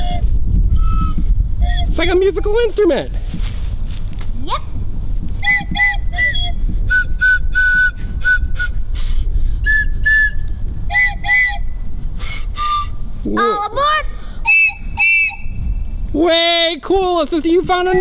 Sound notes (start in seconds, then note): 1.6 blowing whistle; 6.8 blowing whistles